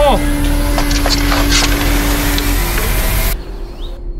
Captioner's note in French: son de corne au loin